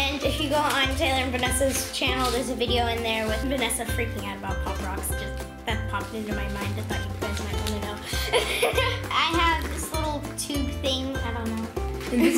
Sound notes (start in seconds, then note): 8.1 giggles